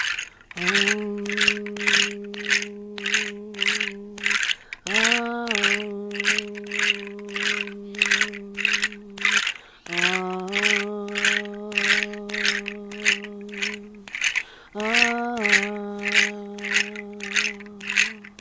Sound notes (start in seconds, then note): 4.9 hum